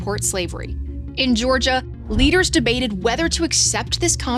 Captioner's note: graphic whooshes